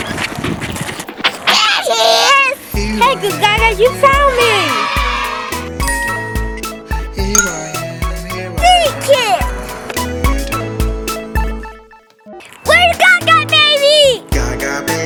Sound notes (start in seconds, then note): 4.0 kids cheering; 5.8 magical ting